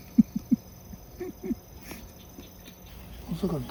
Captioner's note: laughs